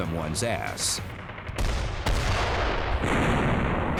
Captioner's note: sounds of battle